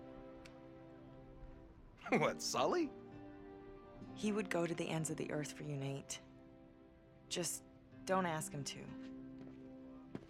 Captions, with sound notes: (laughing) What, Sully? He would go to the ends of the earth for you, Nate... ...just.. don’t ask him to.